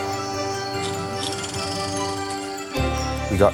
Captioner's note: crowd cheers; movie projector sound